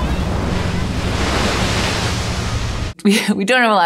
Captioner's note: waves lapping